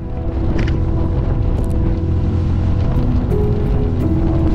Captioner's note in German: Motor rumpelt leise